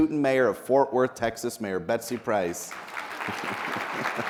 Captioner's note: laughs; people applauding